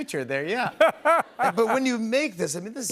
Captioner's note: laughs